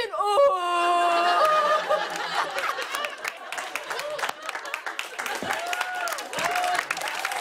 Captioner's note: laughter and applause